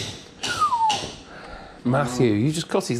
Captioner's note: whistles